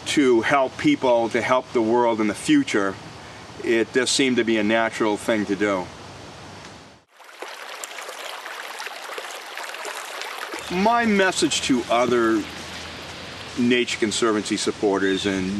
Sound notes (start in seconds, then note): 7.1 water running